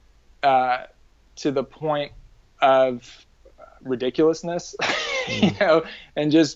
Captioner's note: laughs